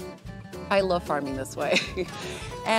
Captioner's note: chuckling